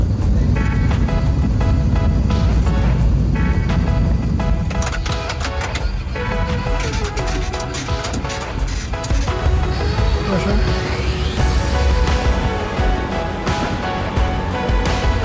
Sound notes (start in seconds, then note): 0.2 upbeat music; 10.3 speaks in foreign language; 12.6 upbeat music